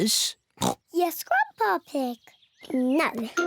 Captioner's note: oinks